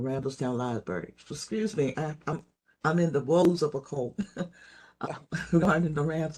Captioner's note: laugh